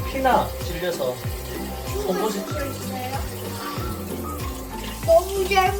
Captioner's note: children talking out of curiosity lol